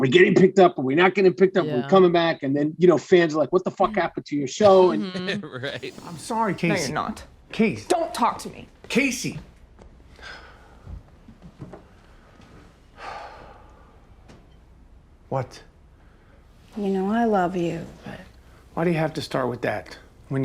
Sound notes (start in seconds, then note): 13.0 sighing